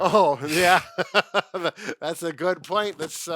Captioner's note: both laugh